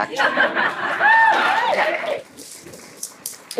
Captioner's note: laughter